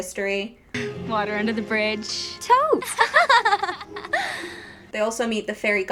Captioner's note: both fake laugh